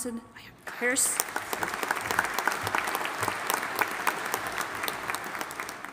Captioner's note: audience applauding